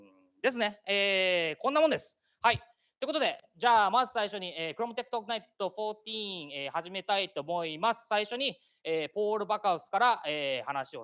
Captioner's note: speaking japanese